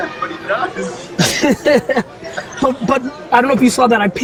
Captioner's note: laughing